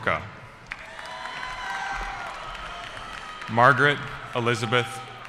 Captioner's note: cheering